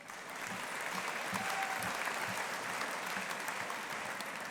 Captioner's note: audience applauding